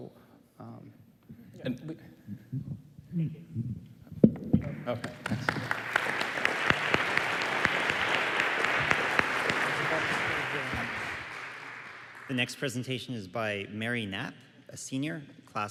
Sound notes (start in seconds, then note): 4.7 applause